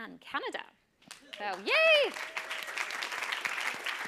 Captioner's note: applause